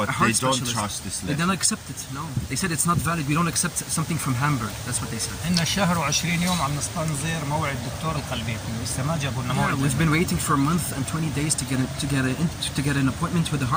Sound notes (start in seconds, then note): 5.7 speaking Arabic